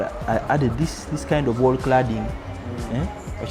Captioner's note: foreign language